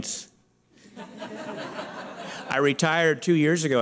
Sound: laughter

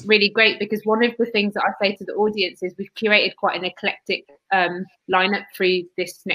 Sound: erm

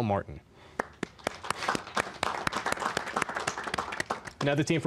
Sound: applause

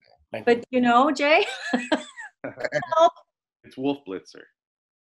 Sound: chuckling

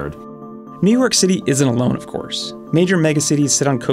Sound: voiceover

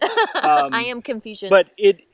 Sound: laughs

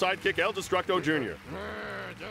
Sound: applause

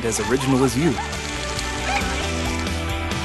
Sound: laughter

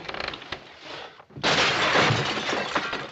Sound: crash

